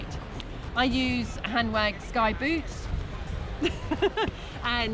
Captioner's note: laughs